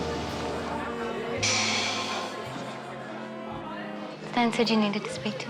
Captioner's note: intense music; people chattering